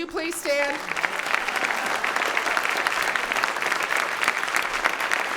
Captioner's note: audience clapping